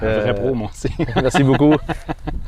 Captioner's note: laughter